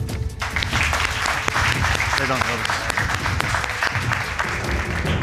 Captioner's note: crowd clapping